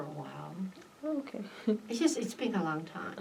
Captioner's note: laughs